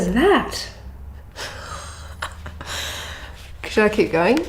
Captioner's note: laughs